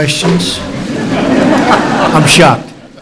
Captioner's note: laughter